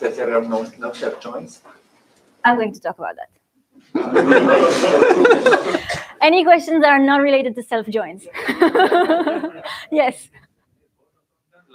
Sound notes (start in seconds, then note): 3.9 laughter; 8.3 laughter